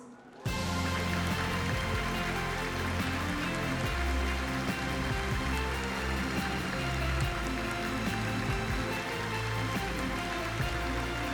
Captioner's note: applause